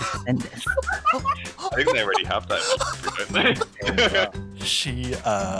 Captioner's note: laughter